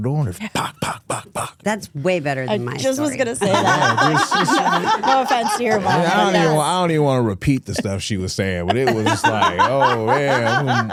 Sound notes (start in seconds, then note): 3.9 Stephanie laughs